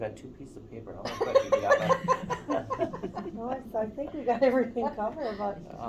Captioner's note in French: Rires